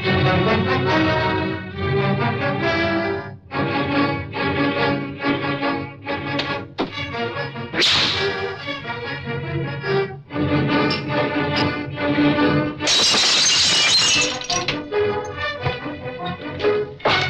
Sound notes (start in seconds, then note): 7.8 whipping; 12.8 lamp shatters